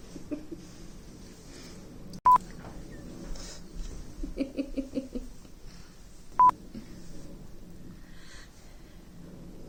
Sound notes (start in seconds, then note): 4.1 laughs